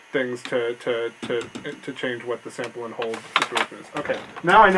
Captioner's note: stammering